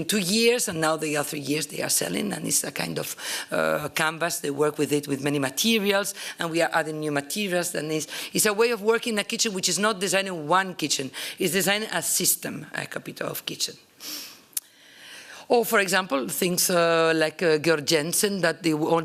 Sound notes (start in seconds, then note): 12.8 italian